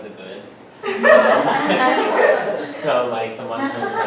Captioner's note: laughter